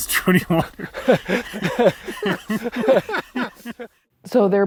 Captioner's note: team laughing